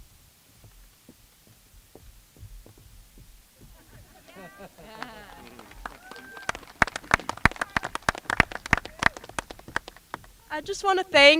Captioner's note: applause